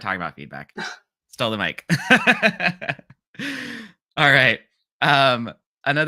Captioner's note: laughs